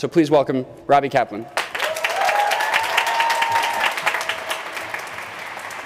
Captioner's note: applause